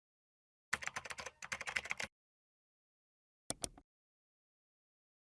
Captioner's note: keyboard typing